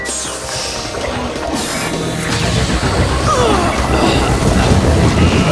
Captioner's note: liquid gurgling